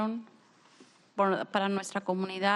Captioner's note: speaking spanish